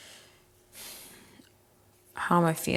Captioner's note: breathing heavily